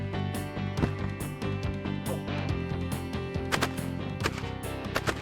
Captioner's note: multiple gunshots